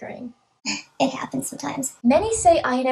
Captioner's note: high-pitched voice